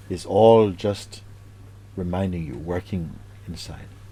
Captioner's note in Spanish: none